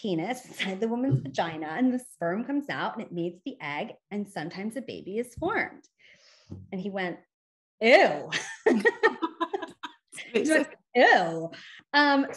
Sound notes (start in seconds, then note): 8.4 chuckles